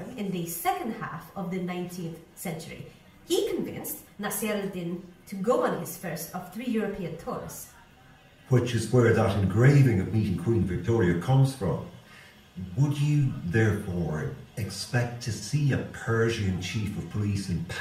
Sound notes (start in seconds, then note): none